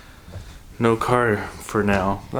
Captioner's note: sighs